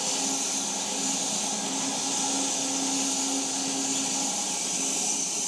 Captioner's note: log saw whirring continues